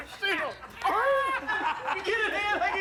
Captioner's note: laughter